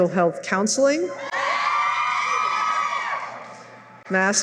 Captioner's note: cheering